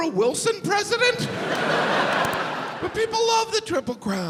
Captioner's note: crowd laugh